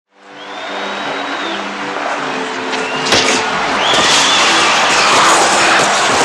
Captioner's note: applause and organ music